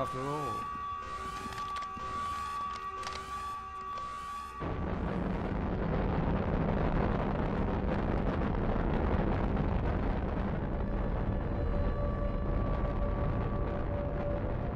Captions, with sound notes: Death will find you soon enough. War is not about glory. War is about victory. [Sirens] Looks like you're going to get your fight after all.